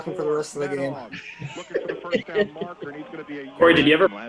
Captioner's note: all laugh